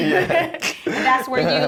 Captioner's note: laughter